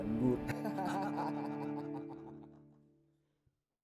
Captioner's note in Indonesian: tertawa